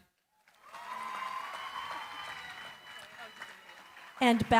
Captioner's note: cheering, applause